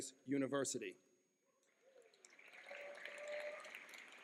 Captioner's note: clapping